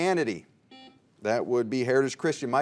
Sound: buzzer beeps

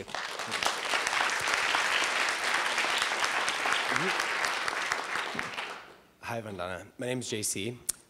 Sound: applause

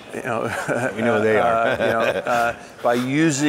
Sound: chuckling

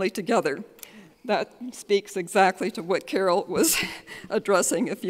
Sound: chuckles

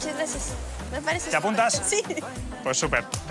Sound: laughs

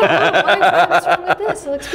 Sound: laughing

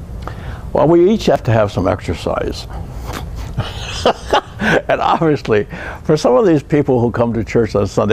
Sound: laughter

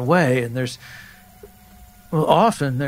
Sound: rooster crowing

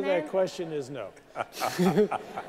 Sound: laughter

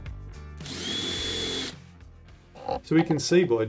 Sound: drill revving

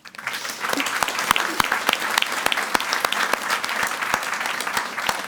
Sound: audience applauding

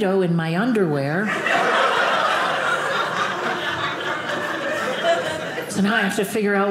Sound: audience laughing

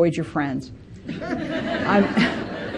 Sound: participants laughing

